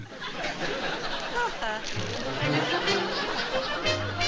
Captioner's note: mock laugh